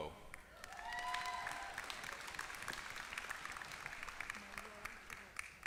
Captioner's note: applause